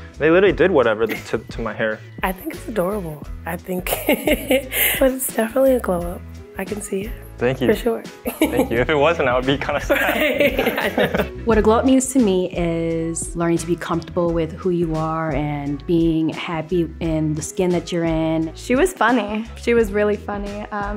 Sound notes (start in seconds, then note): 9.8 both laughing; 9.8 laugh